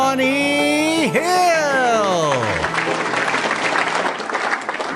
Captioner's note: audience applauding